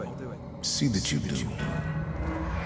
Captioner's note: as an echo from the past